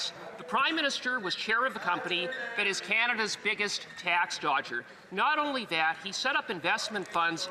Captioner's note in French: voix de l'interprète